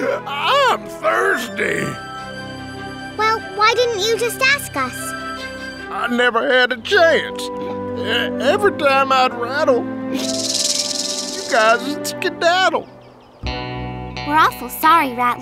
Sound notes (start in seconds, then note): 10.4 rattling